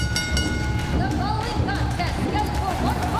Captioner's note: bell ringing